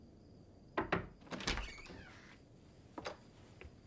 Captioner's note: knock at door